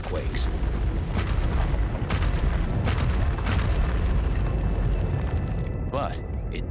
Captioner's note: rock crumbling, explosions echoing